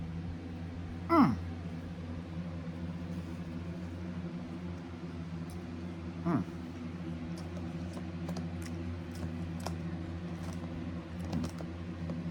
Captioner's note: moaning in pleasure